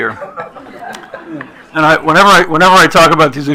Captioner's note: attendees laughing